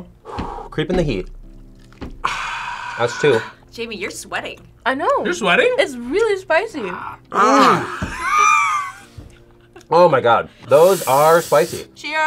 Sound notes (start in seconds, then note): 2.2 exhales; 2.2 sighs; 10.5 exhales